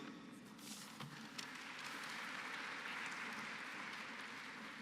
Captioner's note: applause